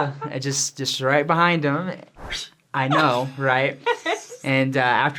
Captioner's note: laughter; fishing sounds